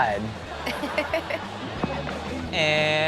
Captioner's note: laughs